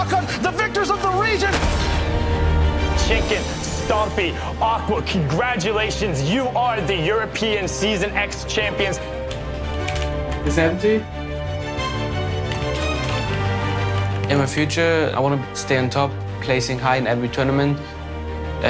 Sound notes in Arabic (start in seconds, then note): 9.2 نقر على لوحة المفاتيح; 10.2 تحدث على سماعة الرأس; 12.4 نقر على لوحة المفاتيح